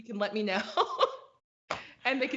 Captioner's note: laughs